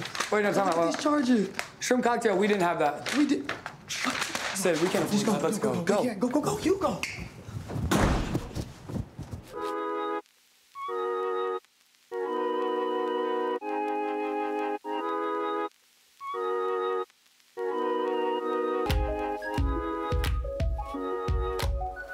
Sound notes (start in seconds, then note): 7.1 footsteps thump; 7.8 door slams; 9.5 playful music; 9.5 pencil scribbles; 10.4 gentle music; 17.6 gentle playful music